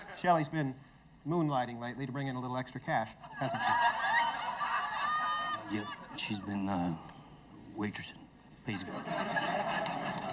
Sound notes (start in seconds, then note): 3.3 audience laughing